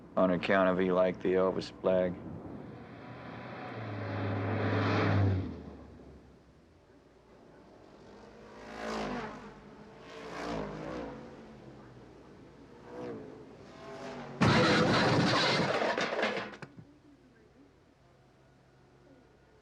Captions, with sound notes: on account of he liked the Elvis flag. (engines rumbling) (engine rattling)